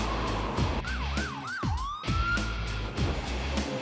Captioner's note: siren